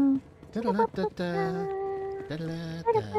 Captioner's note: humming